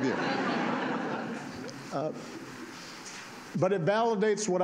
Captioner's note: laughter